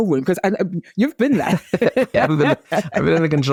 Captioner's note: laughs